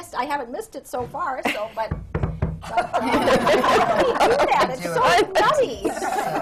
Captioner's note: knocks on wood